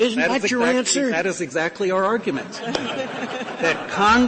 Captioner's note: laughter